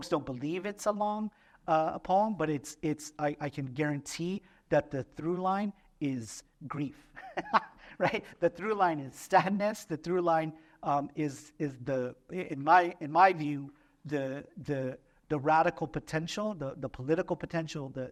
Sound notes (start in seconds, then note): 7.1 laughter